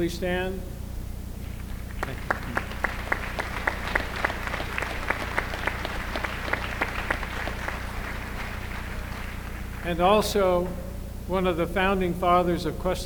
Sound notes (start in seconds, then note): 3.0 applause